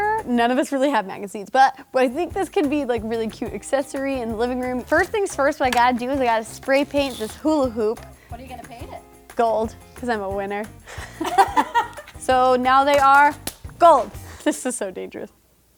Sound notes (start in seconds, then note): 10.9 laughing; 12.9 claps